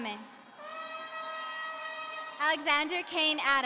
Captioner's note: audience cheering